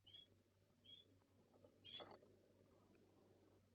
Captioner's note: birds cheep